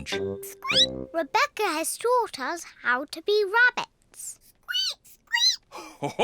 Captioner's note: squeaks; peppa and george squeak; laughs